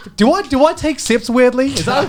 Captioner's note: laughs